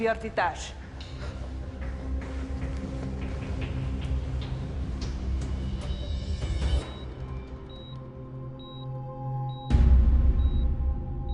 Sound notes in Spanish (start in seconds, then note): 0.1 Hablan en otro idioma; 7.6 Bip del monitor